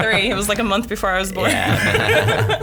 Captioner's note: laughs